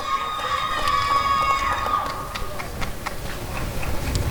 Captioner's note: applause and cheering